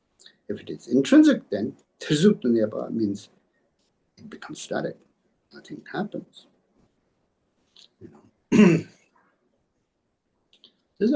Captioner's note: tibetan